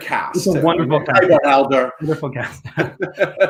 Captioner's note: laughs